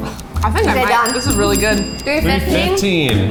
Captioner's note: bell rings